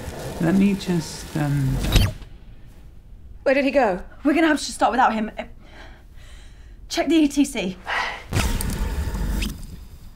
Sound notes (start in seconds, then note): 1.8 static sounds; 8.3 humming